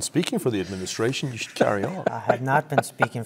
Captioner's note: laugh